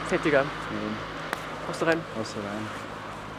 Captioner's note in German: none